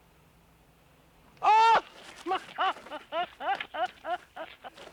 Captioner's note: sobbing and crying